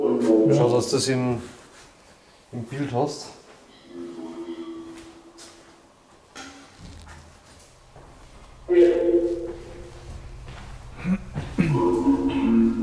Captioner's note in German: APP talking in the background; APP talking in the background